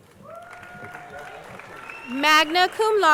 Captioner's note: crowd cheering